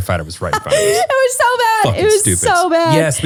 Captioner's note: laughs